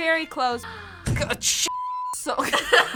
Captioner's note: gasps; both laugh